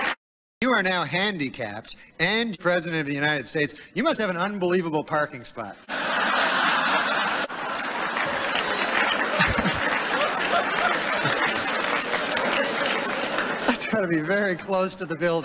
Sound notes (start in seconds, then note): 5.9 laughter, scattered claps